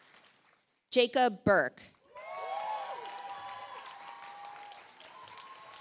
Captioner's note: audience applauds